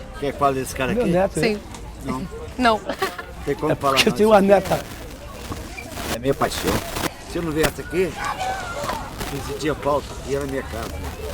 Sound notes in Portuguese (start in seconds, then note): 2.8 rindo